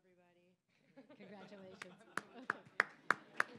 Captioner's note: audience laughing; applause